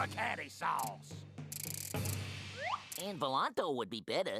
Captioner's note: whirring